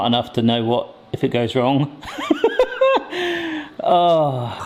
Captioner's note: laughs; sighs